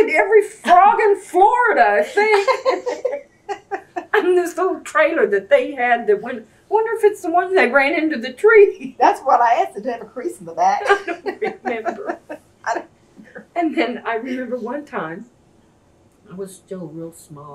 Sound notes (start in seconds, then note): 10.8 laughs